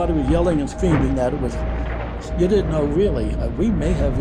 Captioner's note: thunder rumbling